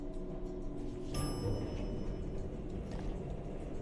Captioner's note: elevator bell rings